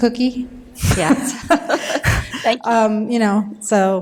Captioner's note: laughter